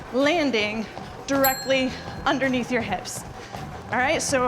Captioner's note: bell dinging